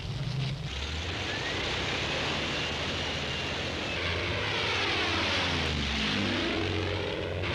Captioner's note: plane engine roars